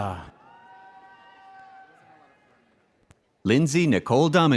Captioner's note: audience cheers